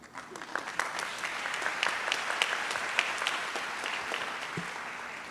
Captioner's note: audience applauds